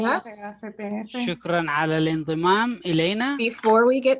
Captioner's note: translators speaking in foreign languages